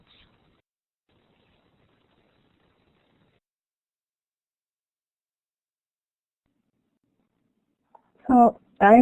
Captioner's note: silence